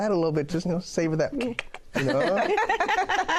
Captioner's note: clicks tongue; laughter